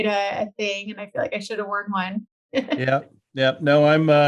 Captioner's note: chuckles